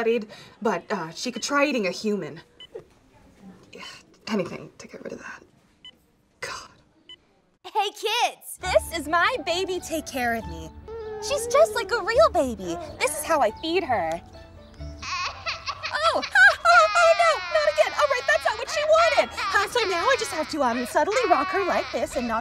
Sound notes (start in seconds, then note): 15.1 baby cries